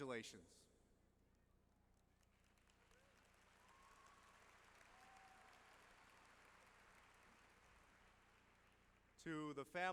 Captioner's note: applause